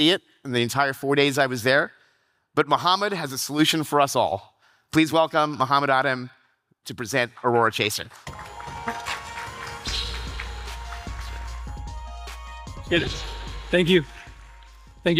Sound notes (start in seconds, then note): 8.1 audience applauding; 8.2 upbeat electronic music